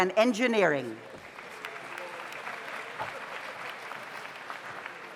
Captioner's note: audience applauds